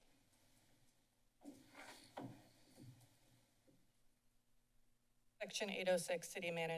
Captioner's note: silence